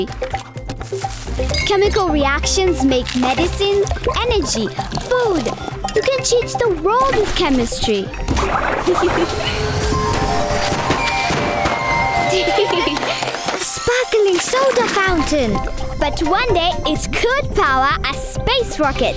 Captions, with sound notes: Chemical reactions make medicine, energy, food. You can change the world with chemistry! (laughing) (laughter) - A sparkling soda fountain! - But one day, it could power a space rocket!